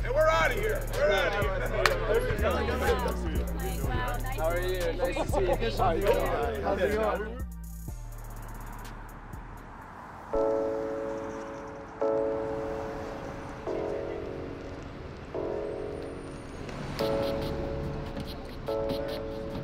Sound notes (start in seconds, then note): 1.7 claps hands; 7.2 upbeat music; 8.1 traffic; 10.4 somber music